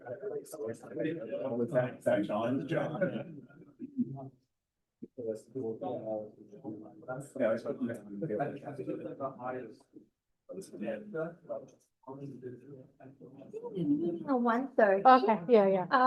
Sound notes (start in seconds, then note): 5.1 background chatter